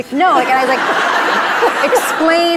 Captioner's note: audience laughs